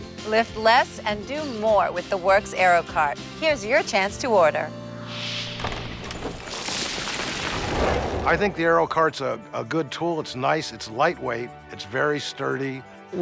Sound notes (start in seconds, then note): 5.0 wind whooshes; 5.5 rocks clatter